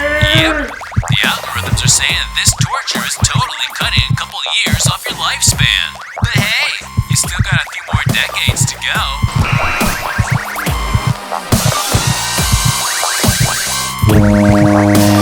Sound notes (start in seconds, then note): 8.8 buzzer; 10.8 electric screwdriver; 11.8 fog horn, music, heartbeat continue